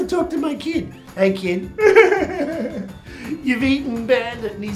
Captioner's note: cries